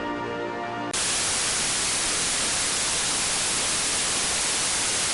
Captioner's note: static